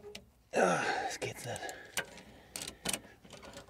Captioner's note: groaning